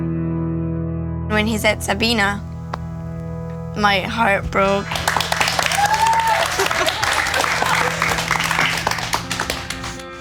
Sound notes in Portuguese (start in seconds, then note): 4.8 Aplausos